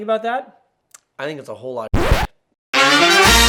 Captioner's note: scratchy sound; upbeat music